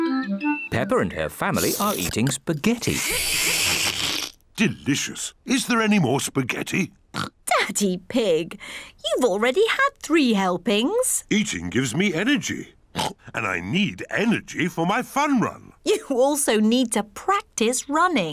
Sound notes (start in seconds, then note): 2.8 slurps; 7.1 oinks; 12.9 oinks